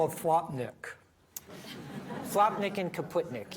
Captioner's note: audience laughing